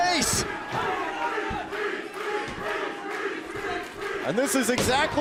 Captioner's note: crowd cheering